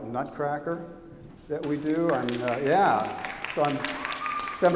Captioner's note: applause